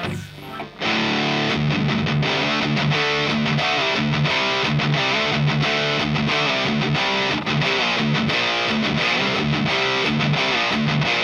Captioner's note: High gain sound